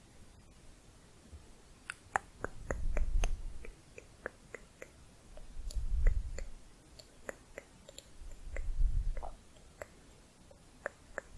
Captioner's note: tongue clicking